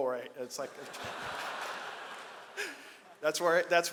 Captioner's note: audience laughs